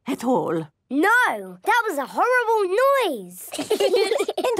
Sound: laughter

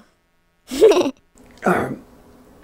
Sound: giggles

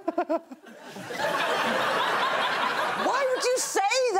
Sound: Greg chuckling; audience laughing

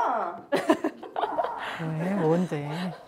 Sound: laughing

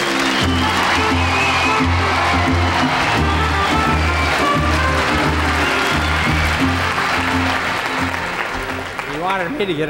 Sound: audience applauding; audience cheering and applauding

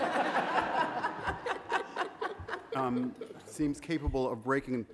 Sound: audience laughing

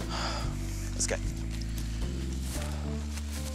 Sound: Sam sighs

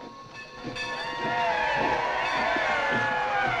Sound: crowd cheering

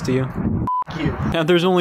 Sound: beep

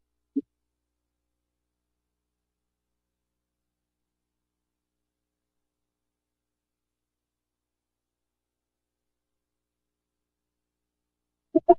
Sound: silence

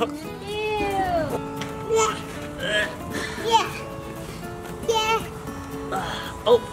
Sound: laughing; noises of disgust

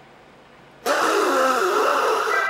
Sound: blowing nose

